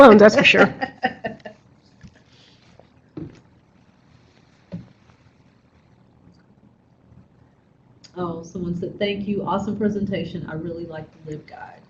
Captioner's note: laughs; silence